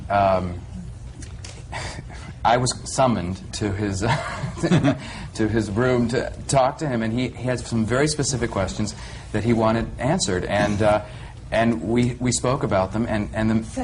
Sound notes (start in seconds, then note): 4.0 he laughs